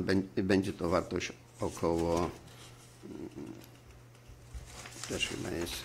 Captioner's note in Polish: głos w tle